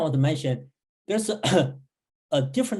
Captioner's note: clearing throat